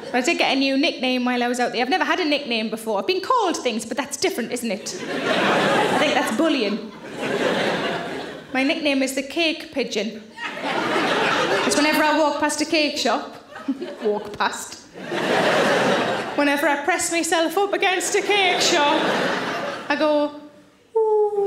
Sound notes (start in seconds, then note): 7.2 audience laughing; 13.6 chuckles; 14.9 audience laughing; 20.2 coos